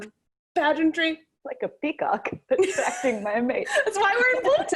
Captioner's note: laughs